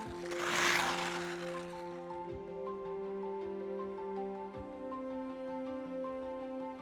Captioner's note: skate scraping; light music